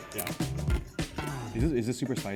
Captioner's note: lotus root crunching